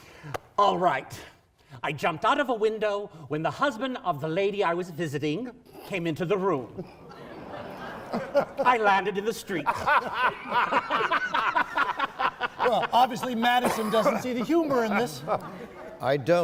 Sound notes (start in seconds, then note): 6.8 laughing